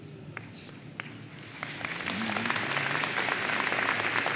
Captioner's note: audience applauds